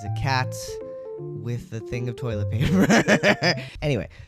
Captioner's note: laugh